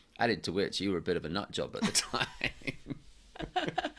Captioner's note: laughs